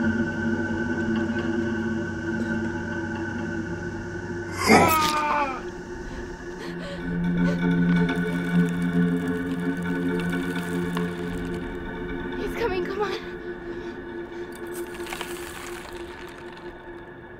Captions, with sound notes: (killer growls) (victim groans) - He's coming, come on.